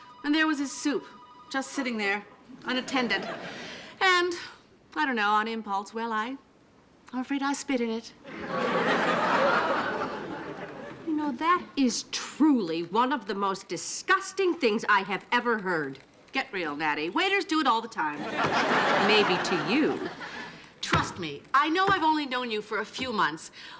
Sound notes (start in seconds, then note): 8.2 audience laughing